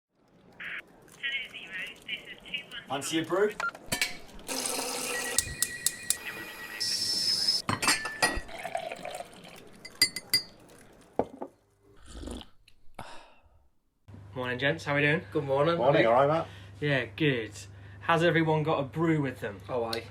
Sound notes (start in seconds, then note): 2.0 radio chatter & background